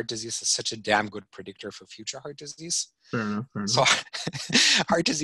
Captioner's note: laughing